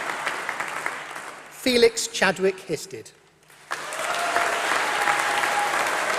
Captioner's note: applause